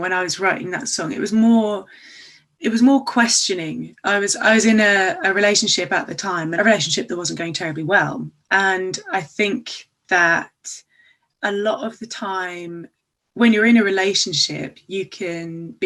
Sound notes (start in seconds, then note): none